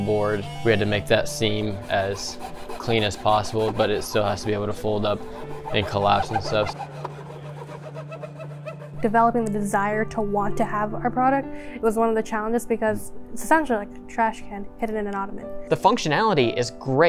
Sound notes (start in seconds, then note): 6.7 gentle piano music; 6.7 tool buzzing